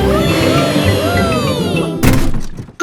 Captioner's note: all cheering